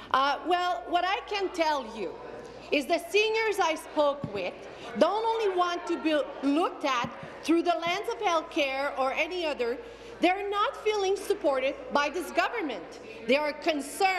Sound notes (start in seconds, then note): none